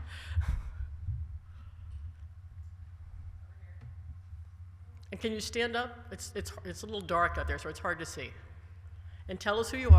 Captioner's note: laughter